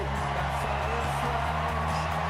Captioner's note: cheers